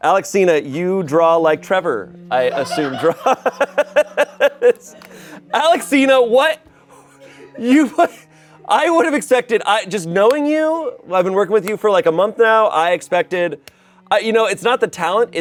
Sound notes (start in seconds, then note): 2.3 laughs